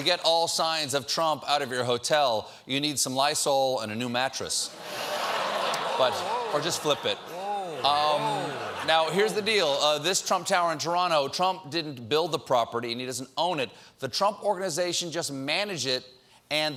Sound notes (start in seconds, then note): 4.7 laughter